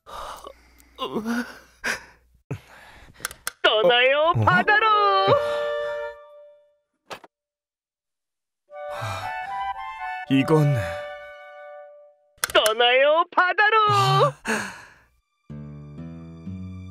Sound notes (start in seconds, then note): 0.1 crying; 12.4 click